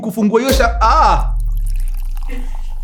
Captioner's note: bottle pops open